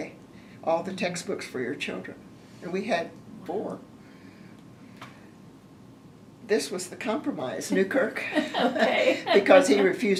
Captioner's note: laughter